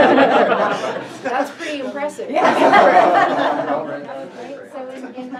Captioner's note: crowd laughs; crowd laughs